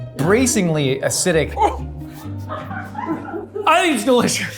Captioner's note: crew laughing